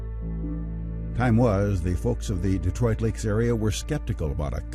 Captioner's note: voiceover